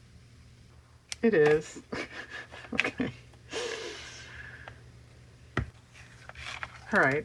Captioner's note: laughs